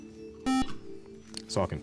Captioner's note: buzzer